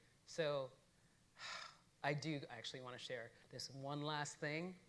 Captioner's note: sighing